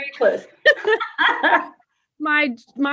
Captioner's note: chuckles